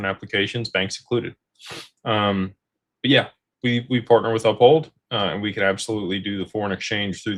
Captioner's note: snorts